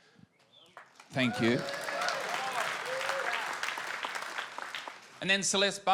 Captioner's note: audience applauds and cheers